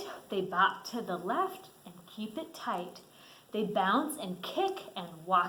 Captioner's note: none